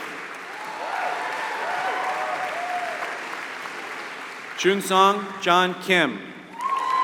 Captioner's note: applause; applause